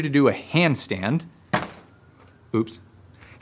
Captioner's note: hitting